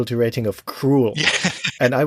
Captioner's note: laughs